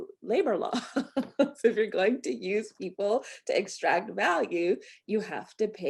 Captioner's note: laughter